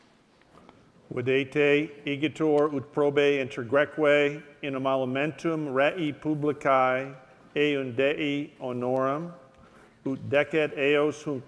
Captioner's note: speaking latin